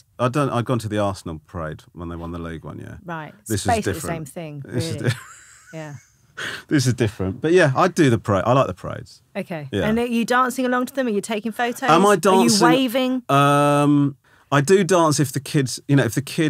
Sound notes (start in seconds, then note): 7.4 Romesh laughing